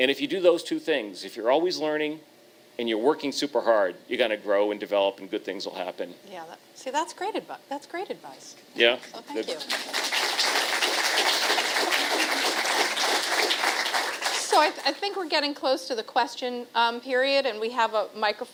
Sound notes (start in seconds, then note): 13.5 applause